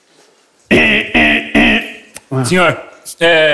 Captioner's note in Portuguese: alarme